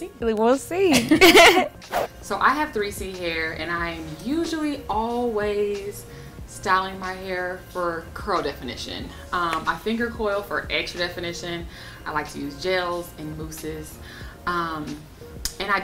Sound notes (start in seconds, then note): 0.9 laughter